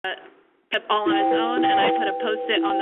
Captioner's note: computer chiming